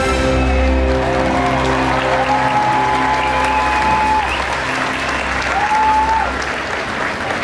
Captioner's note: clapping and cheering